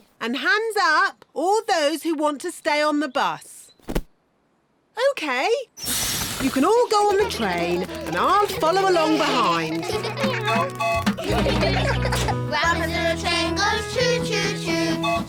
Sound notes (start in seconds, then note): 9.7 all giggling; 10.5 tooting